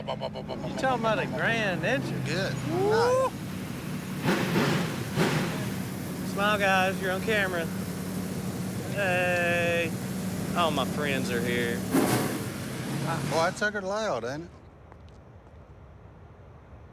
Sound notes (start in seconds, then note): 3.5 revving engine